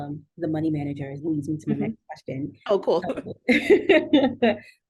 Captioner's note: laughter